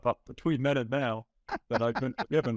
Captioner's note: laughing